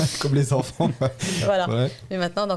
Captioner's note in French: Rires